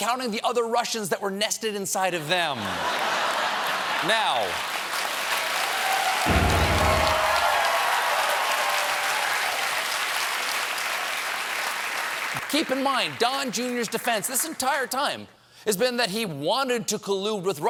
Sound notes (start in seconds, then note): 2.5 laughter; 2.7 applause